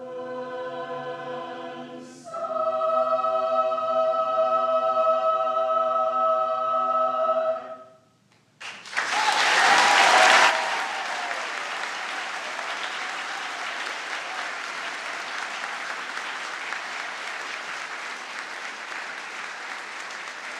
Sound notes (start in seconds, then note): 9.3 audience applauds